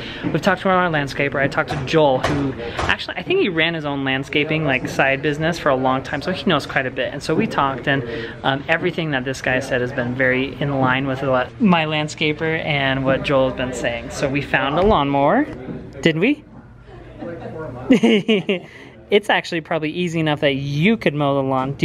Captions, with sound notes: We've talked to our own landscaper. I talked to Joel who, actually, I think he ran his own landscaping side business for a long time, so he knows quite a bit, and we talked, and everything that this guy has said has been very in line with what my landscaper and what Joel's been saying. We found a lawnmower. Did we? (laughs) It's actually probably easy enough that you could mow the lawn.